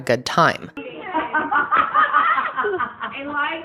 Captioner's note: everyone laughs